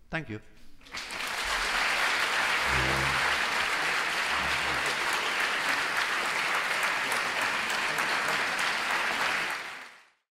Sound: applause

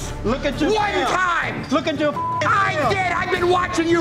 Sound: beeping

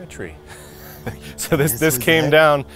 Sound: laughs

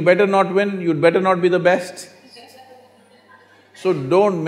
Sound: laughter

